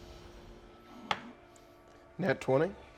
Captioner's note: die rolling